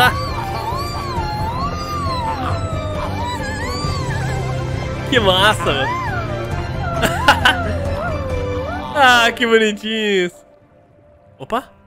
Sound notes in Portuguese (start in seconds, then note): 7.0 risos